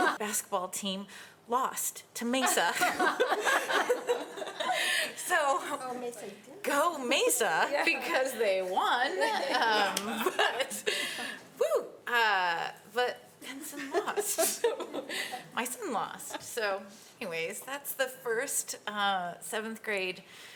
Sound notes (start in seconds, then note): 2.6 audience laughing